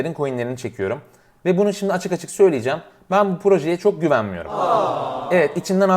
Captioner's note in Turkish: üzülme sesi